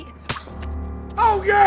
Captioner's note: slapping